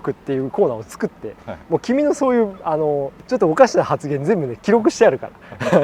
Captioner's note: laughs